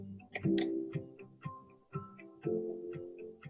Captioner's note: mouse clicking